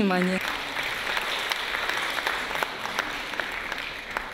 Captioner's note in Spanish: Aplausos